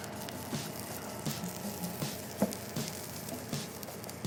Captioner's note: wok sizzles